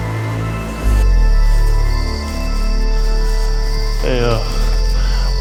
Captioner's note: crickets chirping